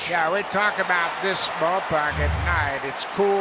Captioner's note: crowd cheering